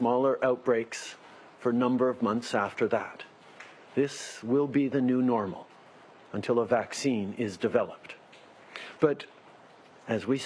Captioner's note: speaking in French